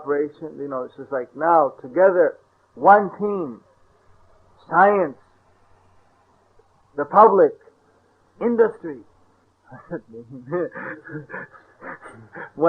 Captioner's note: laughter